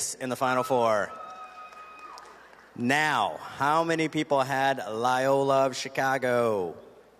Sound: cheers and applause

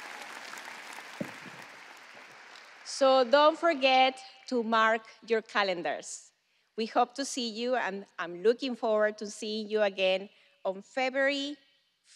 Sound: applause

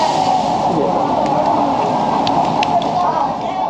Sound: applause

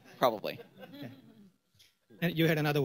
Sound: laughter

